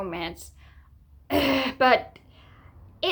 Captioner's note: clears throat in 'yikes'